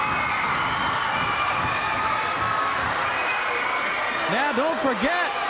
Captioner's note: crowd cheering